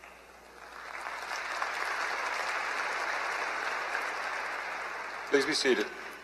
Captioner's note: applause